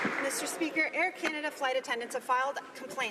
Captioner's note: some Applause